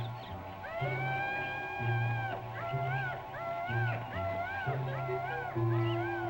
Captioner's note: mysterious music; animal calling